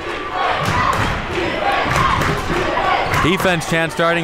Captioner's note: crowd chanting